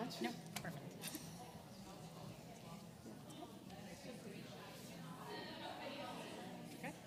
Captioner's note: room chatter